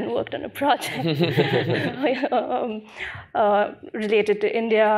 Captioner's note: chuckling